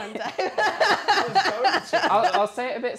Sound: laughs

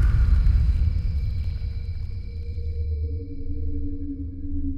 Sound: crickets chirping

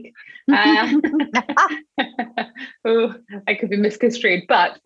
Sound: laughing

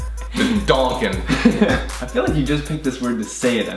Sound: laughs

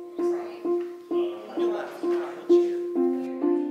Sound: gentle music; chatter

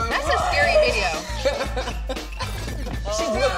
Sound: laughing

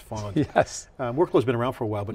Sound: laughs

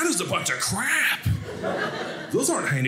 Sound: audience laughing

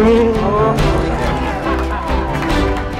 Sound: cheering

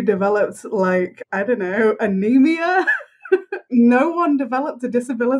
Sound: laughs

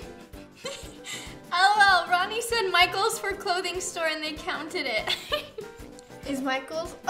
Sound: laughs

